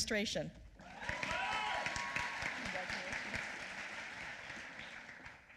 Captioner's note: applause